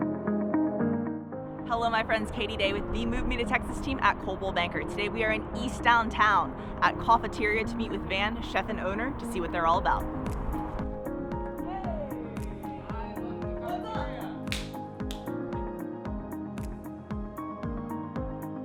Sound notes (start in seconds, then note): 10.6 upbeat music; 14.4 hands slap; 16.0 upbeat music